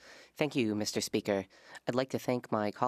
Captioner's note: speaking French